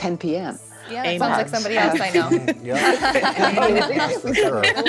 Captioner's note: hosts and guest laughing